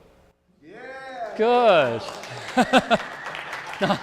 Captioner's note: laughs; audience clapping